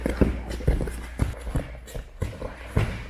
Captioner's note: fabric rustling; stomping